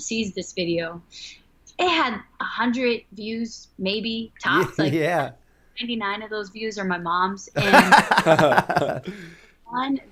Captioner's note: laughter